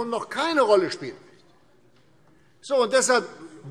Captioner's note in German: none